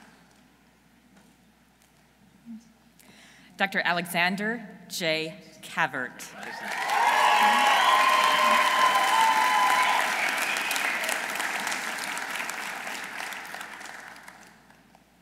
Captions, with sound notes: Dr. Alexander J. Cavert. -(audience cheering) -(audience applauding)